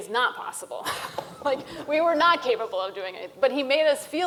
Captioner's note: laughs